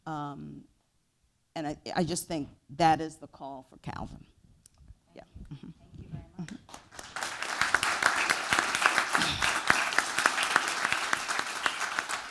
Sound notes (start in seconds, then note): 6.6 applause